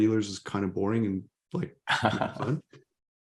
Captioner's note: chuckles